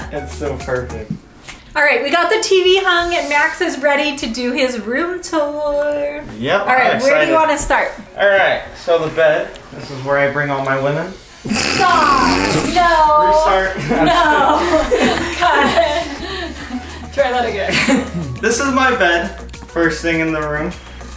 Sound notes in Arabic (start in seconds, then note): 11.6 المصور يضحك; 15.7 الجميع يضحكون